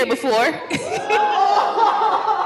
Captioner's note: gasping